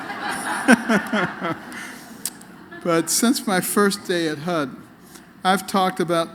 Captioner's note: laughter